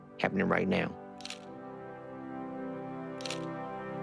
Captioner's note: camera shutter clicking